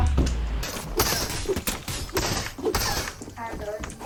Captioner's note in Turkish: Kazma Sesleri